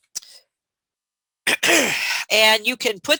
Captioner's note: clears throat